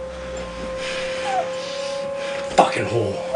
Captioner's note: sobbing